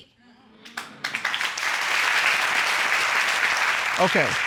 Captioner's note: audience applauding